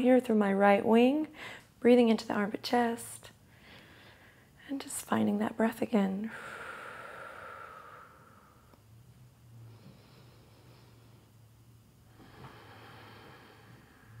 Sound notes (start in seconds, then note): 3.3 inhales; 6.3 exhales; 9.8 slowly inhales and exhales